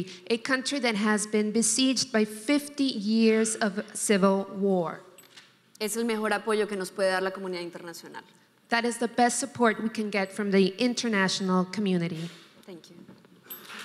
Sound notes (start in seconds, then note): 5.9 speaking in foreign language